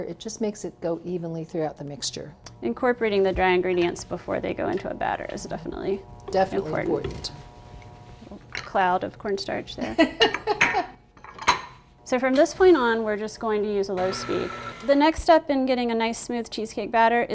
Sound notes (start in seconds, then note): 10.1 laughing; 11.1 clinking